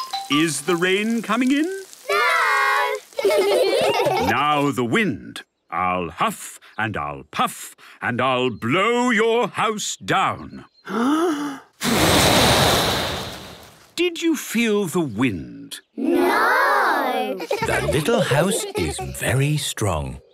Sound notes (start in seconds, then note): 3.1 laughter; 10.9 inhaling deeply; 11.8 blowing; 17.3 laughter